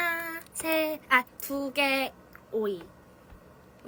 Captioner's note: repeats it in korean